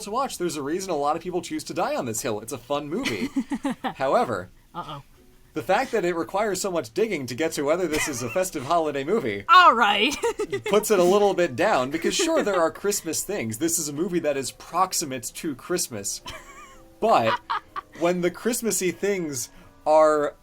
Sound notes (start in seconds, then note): 3.1 laughs; 10.0 laughs